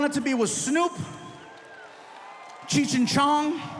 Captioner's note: audience cheering